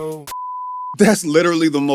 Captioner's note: beep